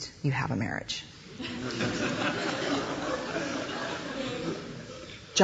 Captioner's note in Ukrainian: сміх